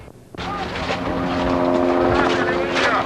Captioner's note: sounds of Helicopter